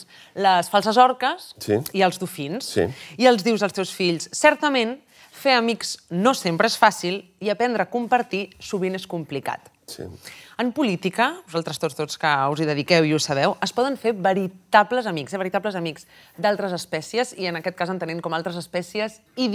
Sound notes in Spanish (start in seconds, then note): none